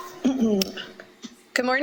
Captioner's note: clears throat